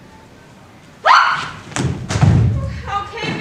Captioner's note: Titania screams